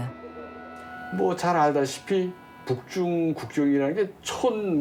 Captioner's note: speaking Korean